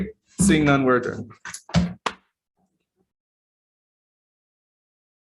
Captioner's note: mantle pounding